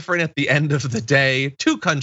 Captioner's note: laugh